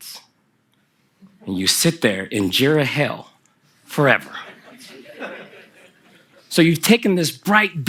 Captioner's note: laughter from the audience